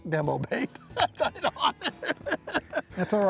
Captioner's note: laughing